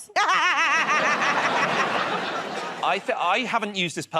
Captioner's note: laughter